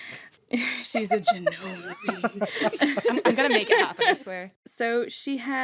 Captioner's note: laughter